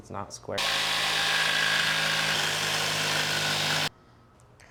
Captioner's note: working noises